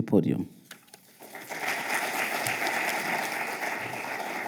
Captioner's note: audience applauding